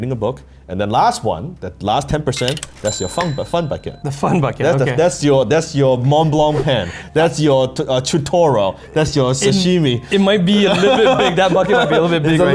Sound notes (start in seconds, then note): 2.3 change falling; 2.3 bell rings; 11.5 laughing